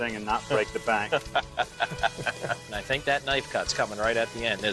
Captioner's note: laughs